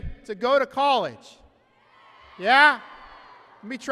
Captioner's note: applause and cheering